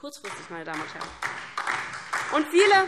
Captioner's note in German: Beifall DIE LINKE